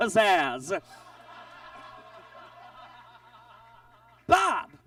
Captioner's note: audience laughs